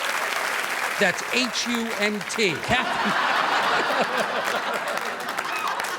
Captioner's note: laughing